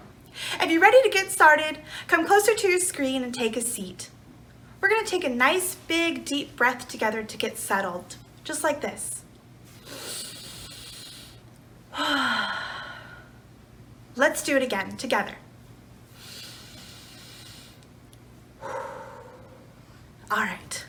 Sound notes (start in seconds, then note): 9.7 inhales; 11.6 exhales; 16.1 inhales; 18.6 exhales